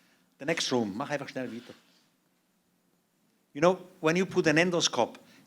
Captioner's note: non-english speech